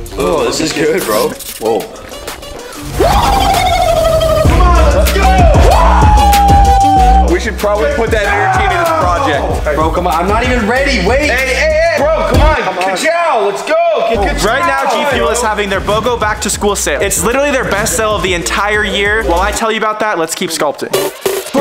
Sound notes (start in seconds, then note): 0.0 action music; 3.0 cheering